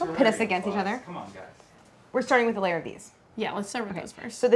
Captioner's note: none